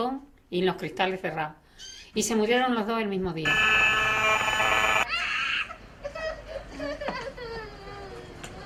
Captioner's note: wireless sound systems , child crying